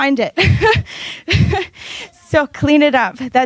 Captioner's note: laughs